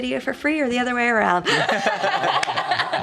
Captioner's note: laughing